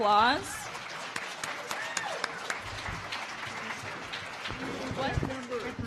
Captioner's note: audience applauding